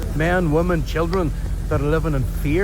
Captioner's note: none